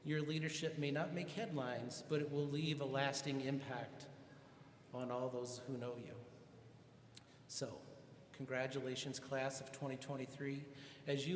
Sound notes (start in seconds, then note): none